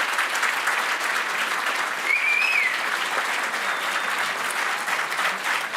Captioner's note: applause